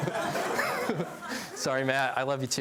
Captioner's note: laughs